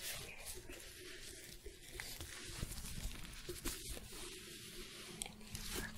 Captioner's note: glove sounds, stroking